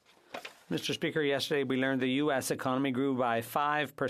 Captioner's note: speaking French